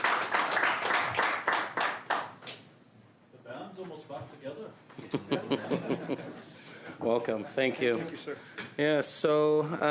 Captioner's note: applause